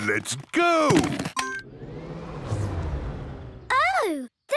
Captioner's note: car chimes; whirring, whirring stops